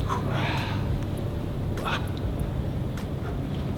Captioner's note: grunting